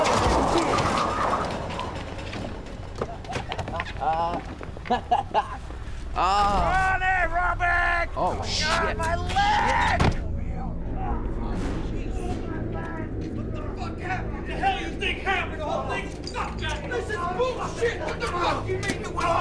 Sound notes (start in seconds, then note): 0.0 tires screeching; 2.8 Ronny laughing; 10.2 lots of yelling and cuss words